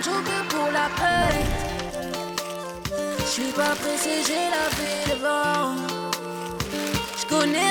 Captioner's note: lively music; piping bags crinkling